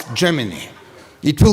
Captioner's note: laughter